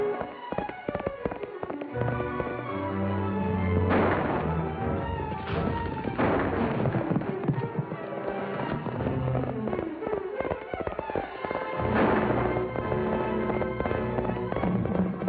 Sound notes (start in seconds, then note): 0.0 horse galloping; 3.8 gunshots; 8.9 horse galloping; 11.8 gunshot; 13.4 horse trotting